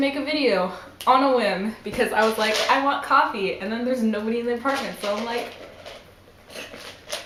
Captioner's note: sips loudly